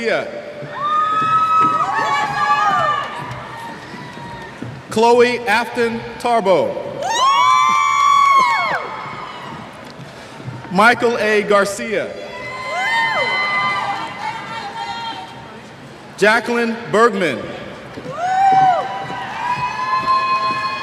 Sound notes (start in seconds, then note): 0.7 cheers; 7.0 cheers; 12.3 cheers; 18.1 cheers